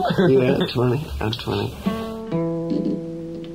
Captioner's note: voiceover; guitar music